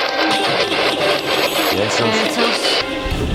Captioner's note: mysterious voice giggles